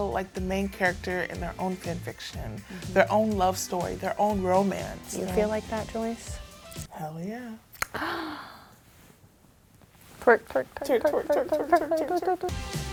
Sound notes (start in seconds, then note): 7.9 gasps